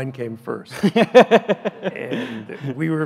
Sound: laughs loudly

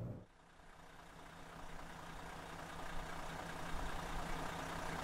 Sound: engine running

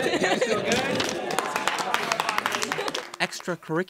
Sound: audience applauding

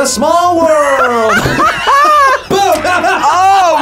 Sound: laughs; both laugh

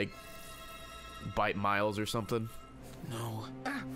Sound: none

